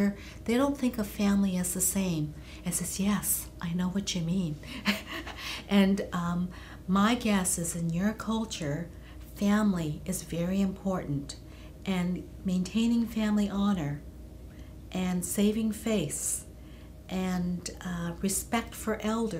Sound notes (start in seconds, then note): 4.8 laughs